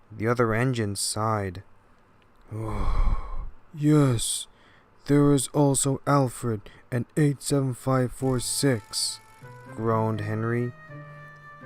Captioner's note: sigh